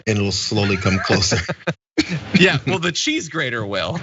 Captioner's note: laugh